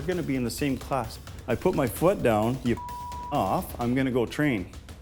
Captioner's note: beep